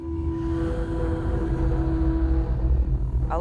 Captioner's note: ghostly sigh